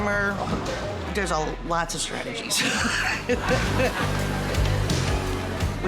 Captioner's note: laughing